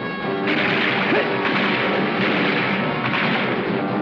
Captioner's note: gun firing